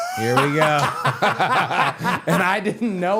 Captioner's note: both laughing